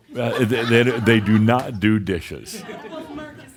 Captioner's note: more chuckles